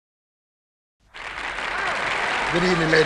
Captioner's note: audience applauding